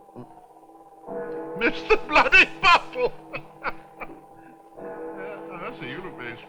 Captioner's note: clock gongs; laughing